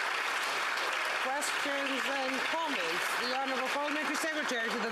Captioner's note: applause